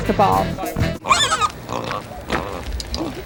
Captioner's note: squealing